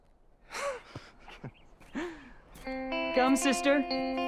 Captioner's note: laughing